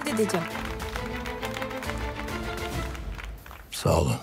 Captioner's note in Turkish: Alkış sesi